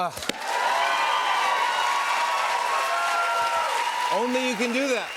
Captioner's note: cheers and applause